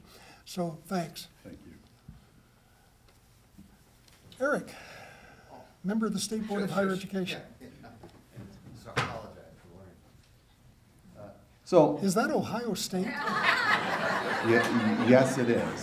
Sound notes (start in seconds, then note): 13.0 laughter